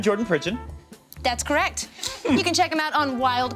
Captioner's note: chuckles